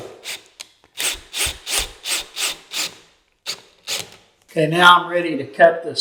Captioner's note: drill buzzing